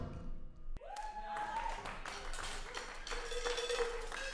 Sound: applause

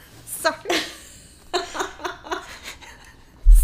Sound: both laughing

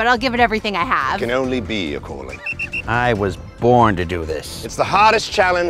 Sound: whistle

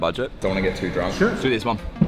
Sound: deep Voiceover

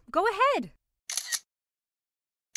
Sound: camera clicks

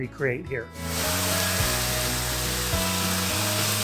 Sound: pan fire sizzling

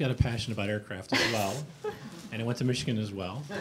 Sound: laughing

